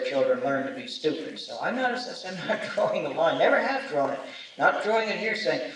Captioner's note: chuckles